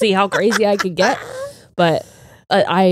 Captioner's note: laughs